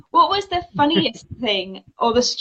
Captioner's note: laughs